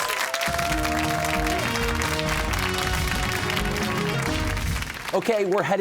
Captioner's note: cheers and applause